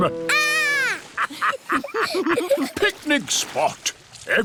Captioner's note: laughter